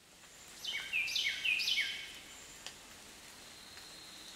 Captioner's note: birds chirping